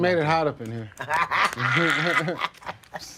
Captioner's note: laughs